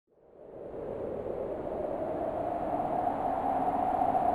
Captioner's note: wind swooshing